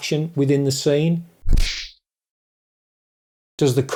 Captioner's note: kung Fu Sound